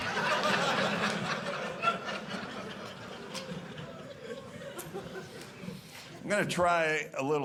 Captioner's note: audience laughing